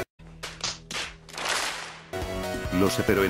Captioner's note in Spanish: Palmadas